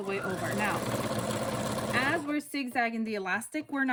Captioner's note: sewing machine whirring